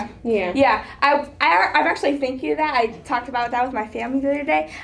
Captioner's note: none